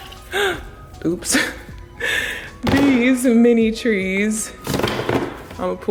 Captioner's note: loud gasp